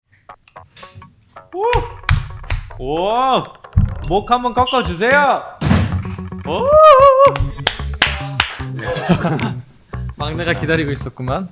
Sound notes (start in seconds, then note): 6.0 crack